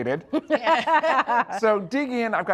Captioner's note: Julia and Bridget laugh